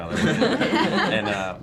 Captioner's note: laughing